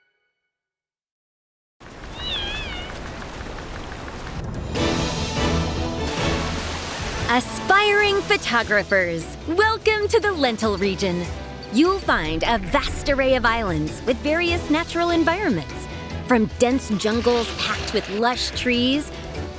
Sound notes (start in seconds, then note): 2.2 soft cheery calls; 4.5 heroic orchestral music